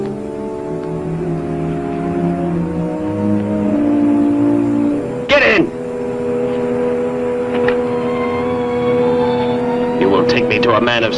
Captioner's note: city traffic